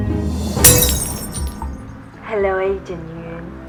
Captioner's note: glass smashing